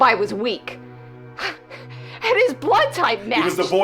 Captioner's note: scoffing